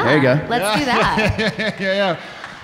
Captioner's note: laughs